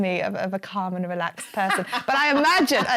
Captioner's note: laughing